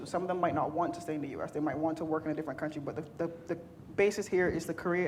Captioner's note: none